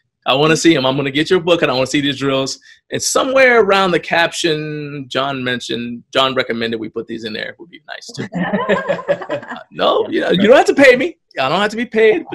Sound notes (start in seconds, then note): 8.0 laughs